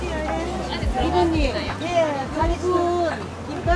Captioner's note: speaking in foreign language